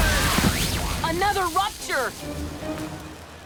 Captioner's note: people grunting; explosion